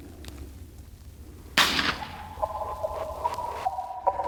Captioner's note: gun firing